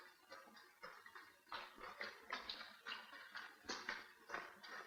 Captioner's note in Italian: sgocciolio